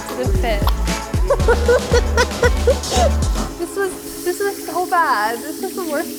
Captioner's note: laughs